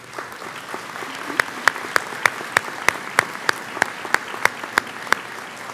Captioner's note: audience applauds